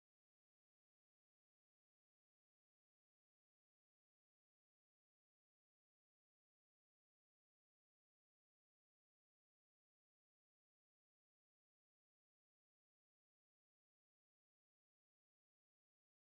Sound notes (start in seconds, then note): none